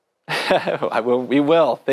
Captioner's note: laughs